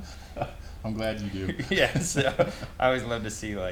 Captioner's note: laughs